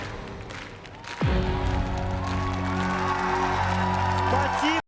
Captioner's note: cheering